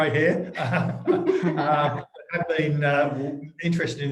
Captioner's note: laughing